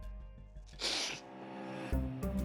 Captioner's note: sniffles